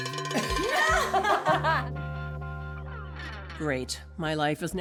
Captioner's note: laughter